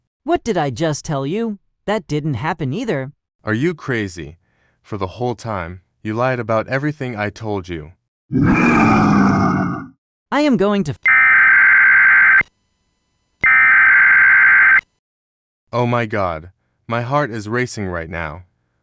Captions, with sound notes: What did I just tell you? That didn't happen either!! Are you crazy!? For the whole time, you lied about everything I told you! [Fourth pigeon growls] I am going to f- [Weather alarm goes off] Oh my god! My heart is racing right now!